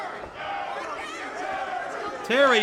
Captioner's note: crowd chants